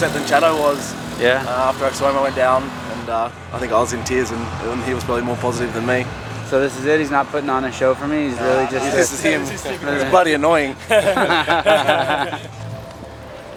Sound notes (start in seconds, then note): 10.7 laughter